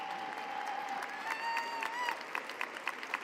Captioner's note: applause